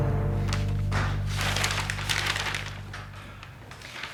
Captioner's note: door clicks